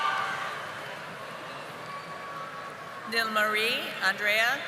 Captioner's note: audience applauding